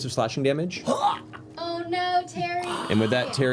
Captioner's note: strangled death noises